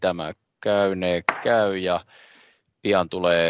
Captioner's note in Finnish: nuijan kopautus